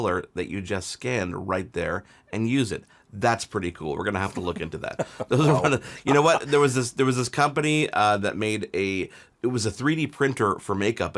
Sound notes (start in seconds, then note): 4.3 laughing